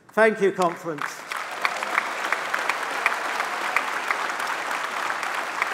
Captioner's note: applause